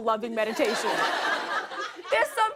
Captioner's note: laughter